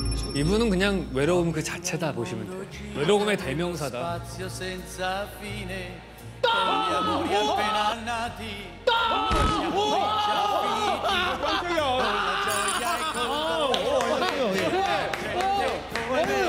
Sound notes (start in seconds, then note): 6.4 exclaiming